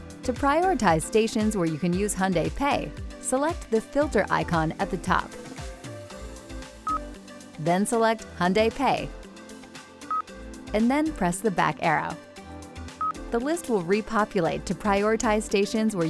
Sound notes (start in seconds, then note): 6.8 system beeps; 9.6 system beeps; 13.0 system beeps